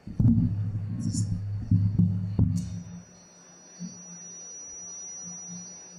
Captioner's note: microphone distortion